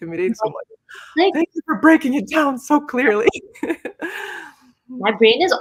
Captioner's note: laughs